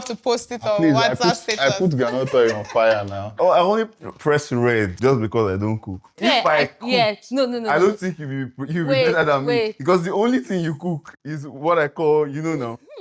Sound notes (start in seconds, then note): 0.8 laughs; 5.9 laughs; 12.5 laughs